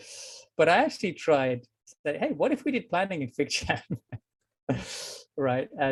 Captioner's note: laughs